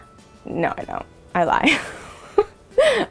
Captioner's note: laughs